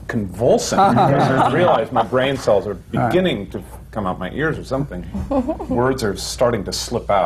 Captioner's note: laughter